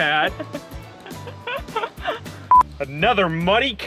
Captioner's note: laughing